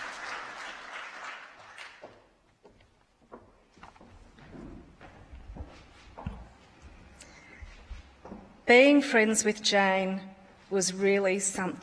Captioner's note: applause